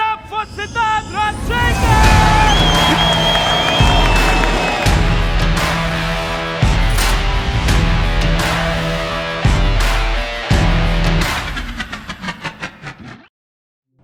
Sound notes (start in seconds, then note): 1.8 applause; 3.1 heavy rock music